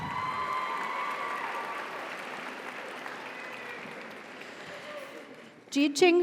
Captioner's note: audience cheers; audience applauds